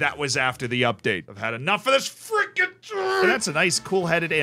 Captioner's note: grunts